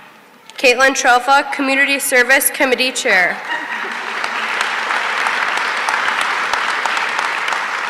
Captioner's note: applause